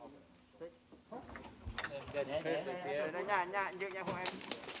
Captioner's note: Vietnamese spoken audio